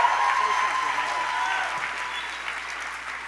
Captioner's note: applause